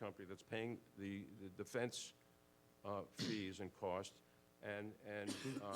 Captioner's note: coughs